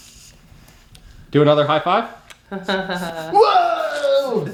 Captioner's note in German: Mama lacht; lacht